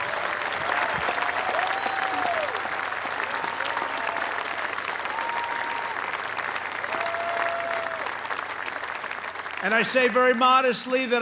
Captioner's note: applause